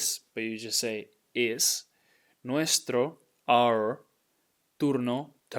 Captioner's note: speaking in Spanish